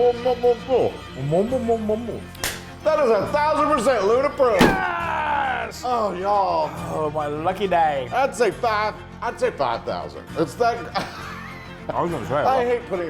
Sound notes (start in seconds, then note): 2.6 claps; 9.9 laughing